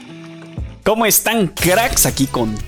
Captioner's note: cracks